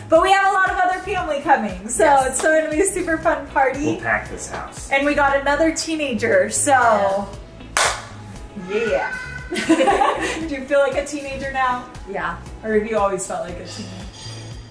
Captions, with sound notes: But we have a lot of other family coming, so it's gonna super fun party. - We'll pack this house. - And we got another teenager, so. - Yeah. (claps) - Yeah. (laughs) Do you feel like a teenager now? - Yeah. - Or have you always felt like a teen?